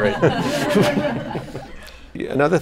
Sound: laughter

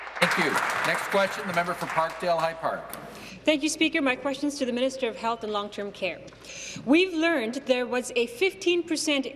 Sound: applause

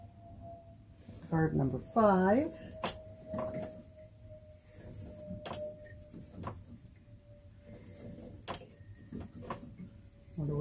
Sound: low flying aircraft noises

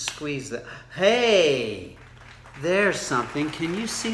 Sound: hands clapping

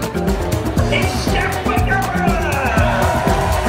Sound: cheering And Clapping

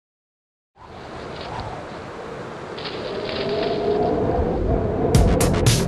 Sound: wind blowing

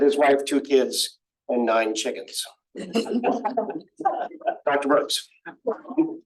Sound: laughter

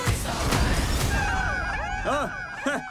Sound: all cheering; chuckles

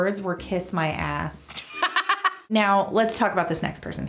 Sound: laughing

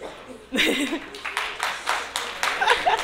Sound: applause

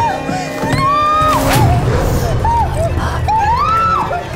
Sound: screams

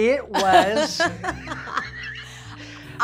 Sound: laughing

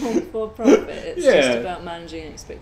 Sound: laughs

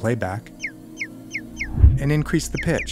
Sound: bluebird warbling

